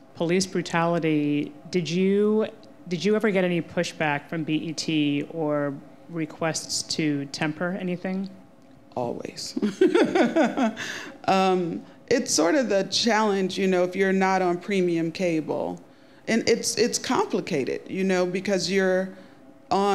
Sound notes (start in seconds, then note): 9.6 laughing